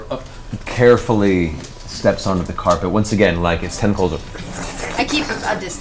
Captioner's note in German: glitschige Geräusche